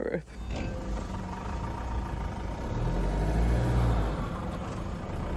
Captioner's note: vehicle engine whirring